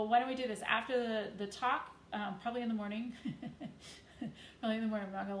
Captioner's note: chuckles